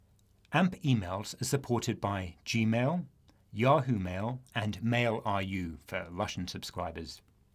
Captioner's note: click